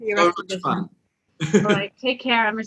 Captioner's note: laughs